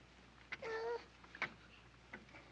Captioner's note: boy whimpers